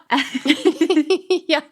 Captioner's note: laughing